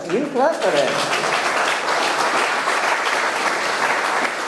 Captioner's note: audience clapping